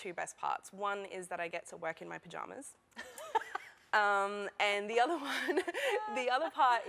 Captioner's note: laughter